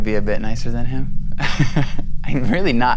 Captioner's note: laughs